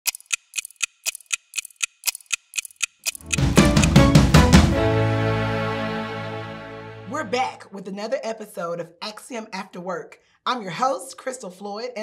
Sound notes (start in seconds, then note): 0.0 clock ticking; 3.0 upbeat music